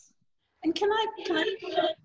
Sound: echo sounds

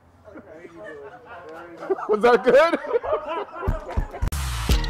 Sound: laughter; laughs

